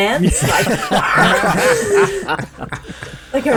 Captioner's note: laughs in WWF!